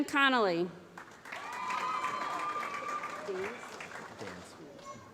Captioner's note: applause